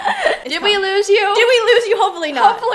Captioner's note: laughs